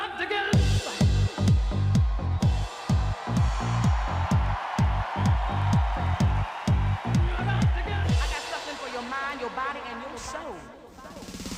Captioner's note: crowd cheering